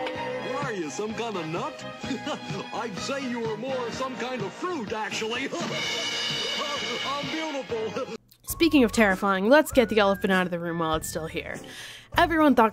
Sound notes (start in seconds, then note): 1.8 laughs; 4.9 rimshot; 5.9 laughs